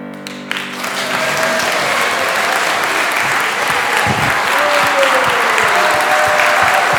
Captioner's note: applause